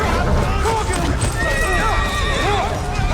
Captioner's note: screaming